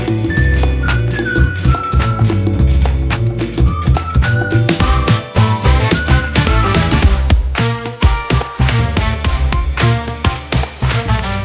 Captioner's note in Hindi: तालियाँ